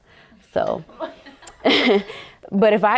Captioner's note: women laughing softly